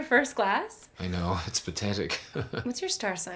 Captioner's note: laughs